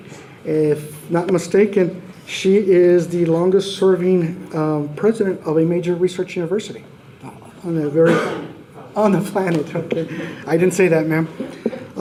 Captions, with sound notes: If not mistaken, she is the longest serving president of a major research university. On the planet [chuckles]. I didn't say that ma'am.